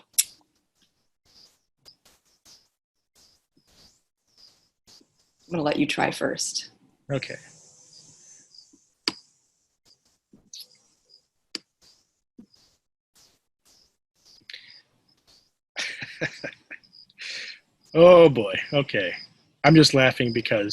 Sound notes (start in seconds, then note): 8.1 laughs